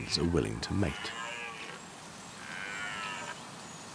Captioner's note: stag roaring